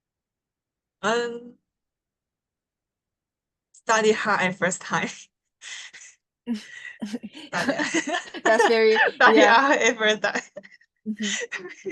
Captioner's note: laughter